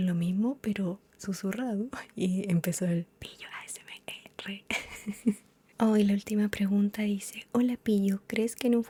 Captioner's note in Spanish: risas